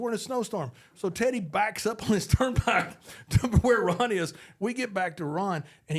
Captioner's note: laughs